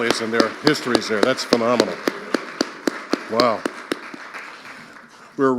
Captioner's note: audience applauding